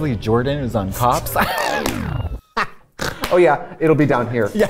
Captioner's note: both laughing